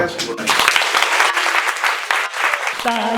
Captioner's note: applause